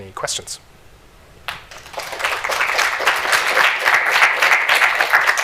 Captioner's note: applause